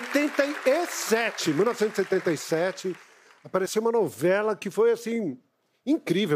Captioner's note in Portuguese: aplausos